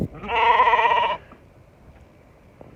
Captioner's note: sheep BAAAAA